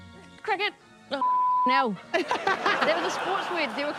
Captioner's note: laughs